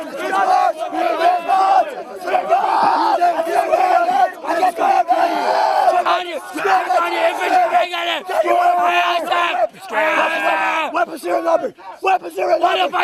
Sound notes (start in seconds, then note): 0.0 all yelling; 2.1 speaking muffled by shouting; 4.1 all shouting chaotically; 11.0 yelling